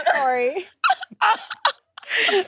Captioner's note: participants laughing